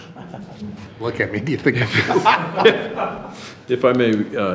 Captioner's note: laughs